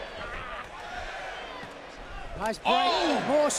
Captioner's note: crowd cheering